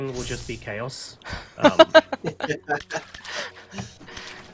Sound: laughter

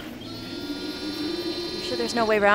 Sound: camera whirring

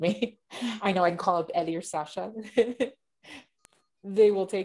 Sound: chuckles

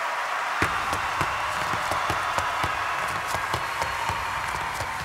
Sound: rhythmic tapping

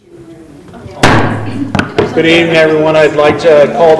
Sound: loud gavel thud

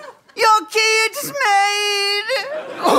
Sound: in Keymaker voice

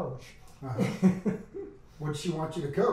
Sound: laughs

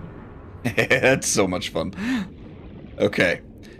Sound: laughing maniacally

